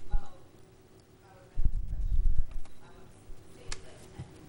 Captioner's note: faintly speaking